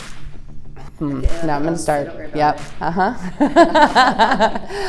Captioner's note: laughs